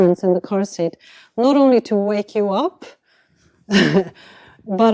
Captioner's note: chuckles